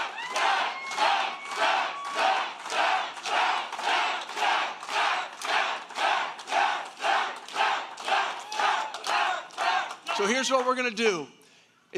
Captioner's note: applause